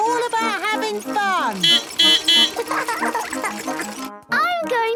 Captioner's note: laughing; beeping